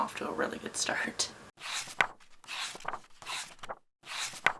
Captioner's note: pages turning